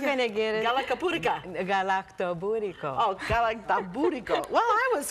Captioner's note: foreign language